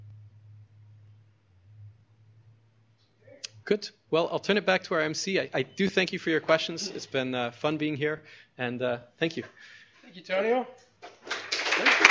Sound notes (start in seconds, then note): 2.4 pause; 11.1 applause